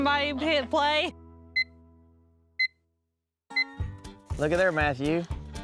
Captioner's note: beeping